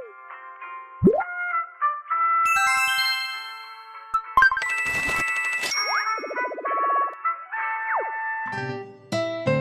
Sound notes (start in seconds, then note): 4.3 confirmation sound; 4.6 money sound